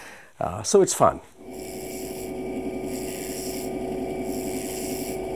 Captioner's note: machine whirring